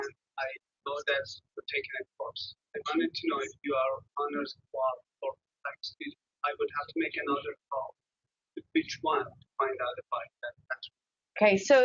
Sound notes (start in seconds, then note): 2.7 audio warps; 6.4 audio skips and warps; 8.6 audio skips; 8.6 audio warps